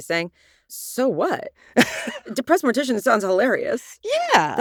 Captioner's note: chuckles